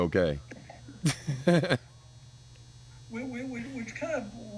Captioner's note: laughing